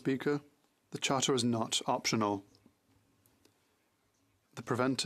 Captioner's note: speaking French